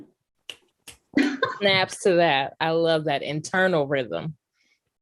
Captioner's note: snapping